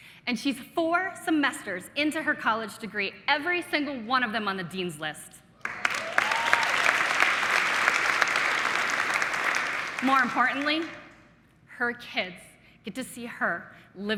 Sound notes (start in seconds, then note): 5.6 audience clapping